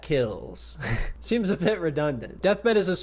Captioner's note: laughs